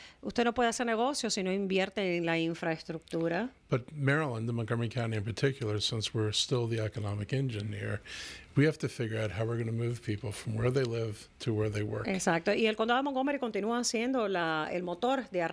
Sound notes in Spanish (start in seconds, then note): 11.2 Hablando ingl\s